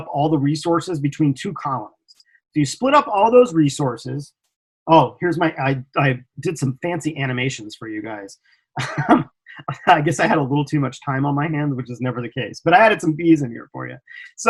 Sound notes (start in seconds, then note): 8.8 laughs